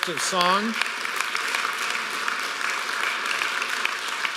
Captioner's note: applause